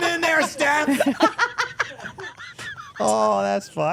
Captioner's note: Steph laughing